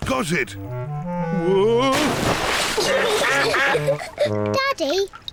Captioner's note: giggling